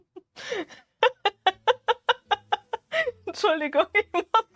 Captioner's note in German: Gelächter